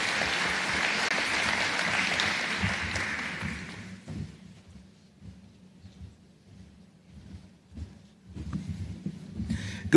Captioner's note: applause